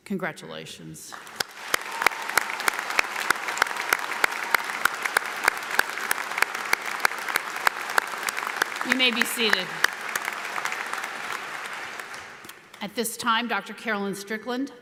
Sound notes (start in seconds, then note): 1.4 audience applauds